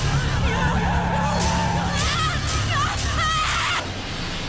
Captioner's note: tires screeching